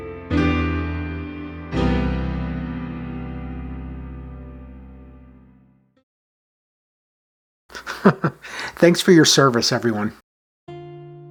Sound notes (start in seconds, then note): 7.7 chuckles